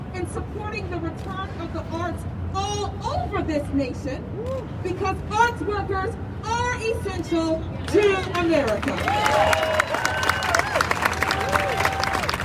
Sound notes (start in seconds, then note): 8.8 crowd cheers